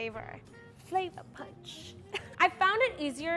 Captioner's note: laughs